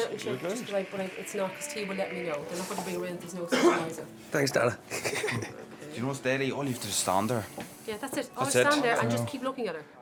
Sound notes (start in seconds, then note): 4.9 man chuckling